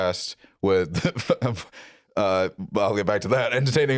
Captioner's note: laughs